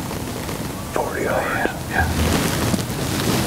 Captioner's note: whispering